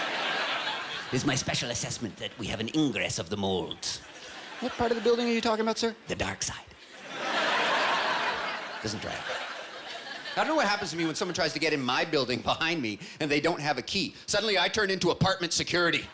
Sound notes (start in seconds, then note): 3.5 normal voice; 5.8 Imitating Palpatine; 7.7 normal voice